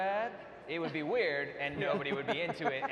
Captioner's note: panel laughs